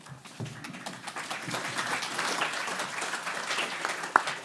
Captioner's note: everyone applauding